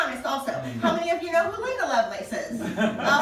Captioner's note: laughter